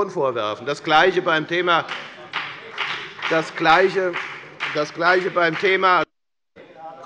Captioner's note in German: Beifall bei der FDP